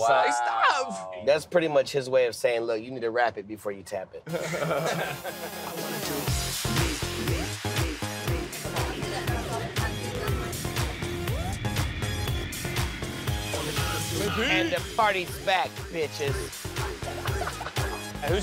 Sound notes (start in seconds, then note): 4.2 all laugh; 6.0 upbeat electronic music